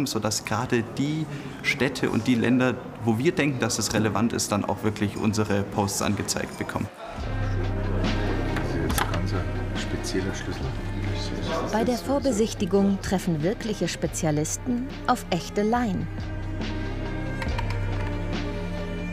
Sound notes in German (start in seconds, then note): 7.0 Stimmengewirr; 15.9 Bewegte Musik